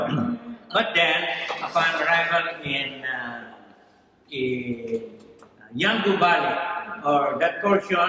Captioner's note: foreign language